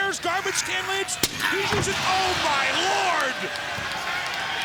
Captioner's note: lid thudding; crowd cheering